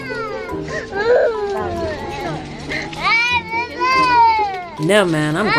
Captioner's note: kids crying